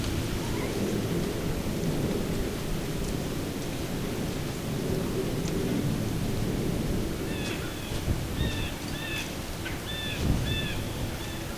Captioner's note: sound of light wind, soft music